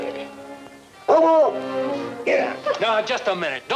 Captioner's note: dog barking